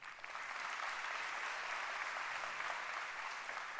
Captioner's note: applause